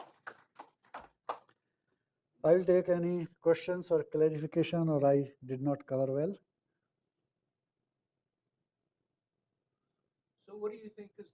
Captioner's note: applause